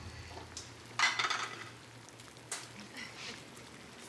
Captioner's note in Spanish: Ruidos al cocinar